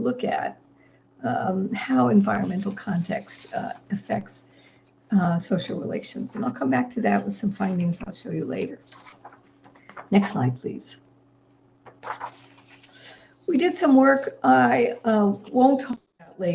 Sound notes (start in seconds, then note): none